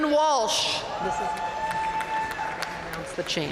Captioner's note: audience cheering and applauding